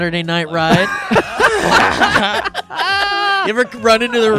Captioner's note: laughing